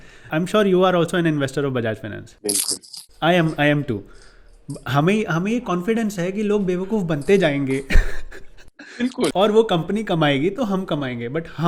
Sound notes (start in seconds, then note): 7.8 laughing